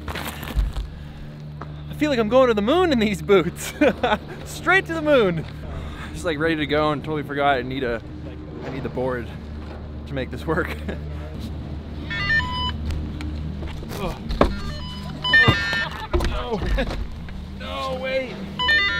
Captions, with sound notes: I feel like I'm going to the moon in these boots. (laughs) Straight to the moon! I was ready to go and totally forgot I need a board to make this work. (beeping) No, no, no wait.